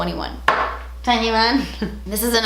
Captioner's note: she laughs